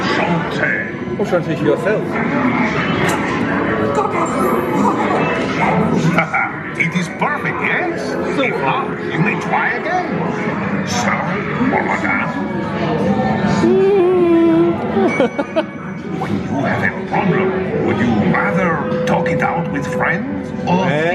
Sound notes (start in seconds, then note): 0.0 character speaks French; 1.7 speaks French; 5.1 laughs